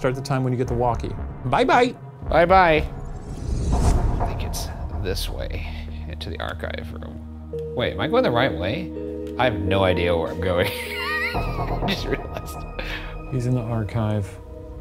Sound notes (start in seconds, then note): 10.8 chortling